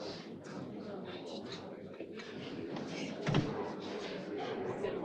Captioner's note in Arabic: الضيوف يتحدثون